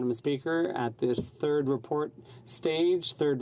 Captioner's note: speaking French